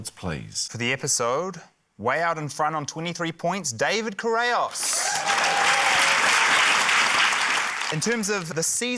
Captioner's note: cheering, applause